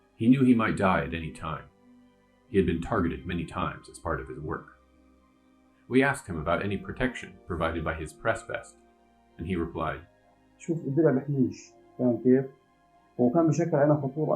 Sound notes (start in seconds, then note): 10.2 non-english